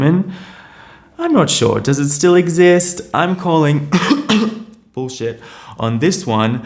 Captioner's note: coughs